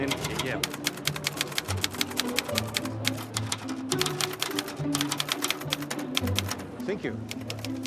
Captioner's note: typewriter clacking